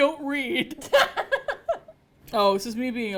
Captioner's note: laughs